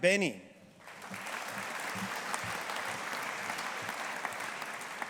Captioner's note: audience applauding